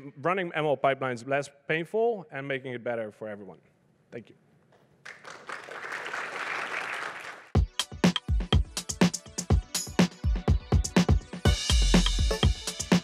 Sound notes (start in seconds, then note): 5.0 applause